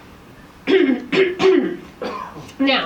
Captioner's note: clears throat